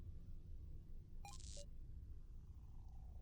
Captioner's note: static sound